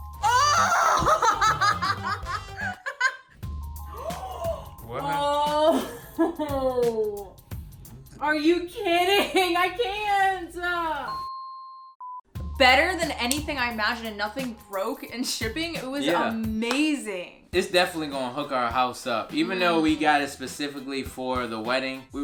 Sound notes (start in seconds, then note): 0.5 laughs; 3.8 gasps